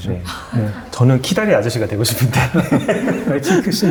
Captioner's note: laughs